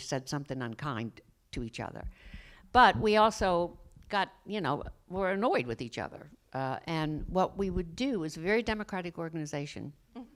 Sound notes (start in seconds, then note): none